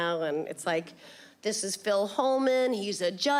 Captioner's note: none